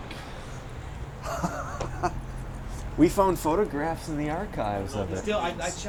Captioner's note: laughing